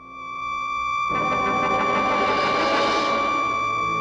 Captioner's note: prolonged ringing